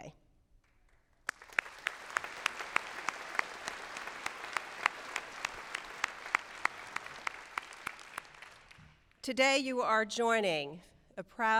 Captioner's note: applause